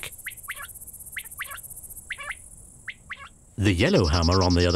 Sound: quail chirps

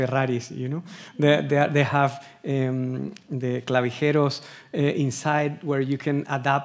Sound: speaking Spanish

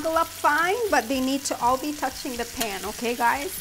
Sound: pan sizzling

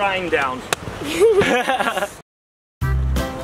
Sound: and Dad laugh; joyful upbeat music

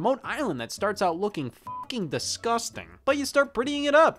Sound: beep

